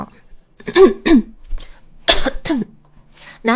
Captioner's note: cough cough cough cough cough